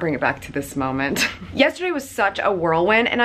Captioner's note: laughs